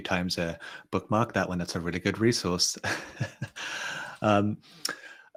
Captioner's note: chuckles